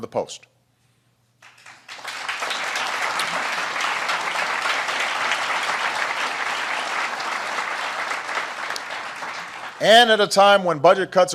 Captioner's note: applause